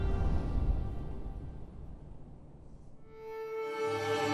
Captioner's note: somber orchestra music; air whooshing; somber violin music